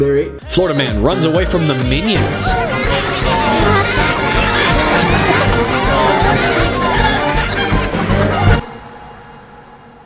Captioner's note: minions screaming and giggling